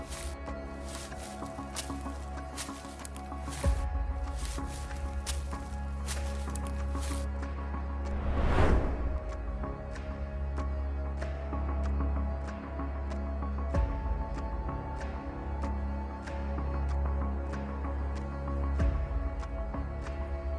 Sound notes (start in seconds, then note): 0.6 leaves rustling continues; 8.0 transition whooshing; 9.5 suspenseful music; 17.1 suspenseful music continues